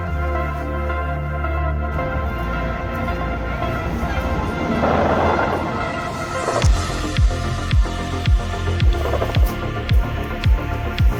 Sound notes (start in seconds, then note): 5.1 portal sound